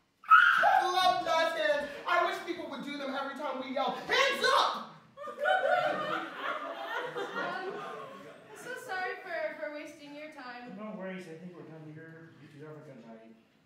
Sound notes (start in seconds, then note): 5.2 laughter